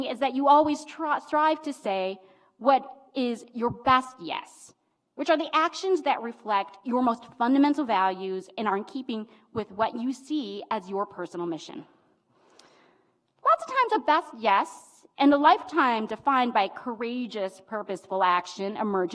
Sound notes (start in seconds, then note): none